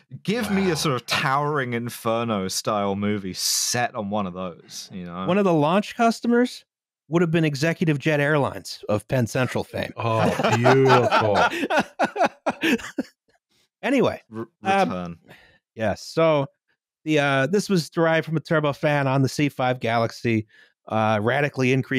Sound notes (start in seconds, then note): 0.2 more laughing; 10.0 laughing. much; 14.2 also laughing